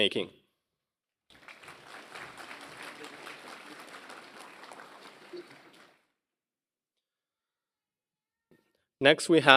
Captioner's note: applause